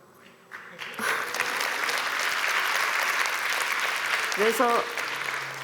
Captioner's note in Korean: 박수